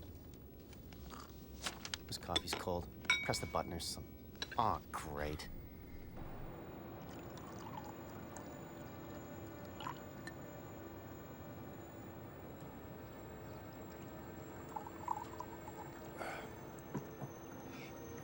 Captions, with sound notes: This coffee's cold. Press the button or some... Aw, great! (water pours) (tense music)